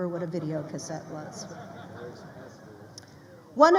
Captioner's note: crowd laughing